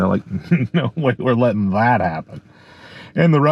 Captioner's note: chuckling